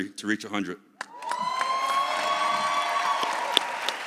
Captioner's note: audience cheers